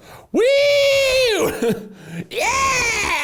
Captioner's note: cheering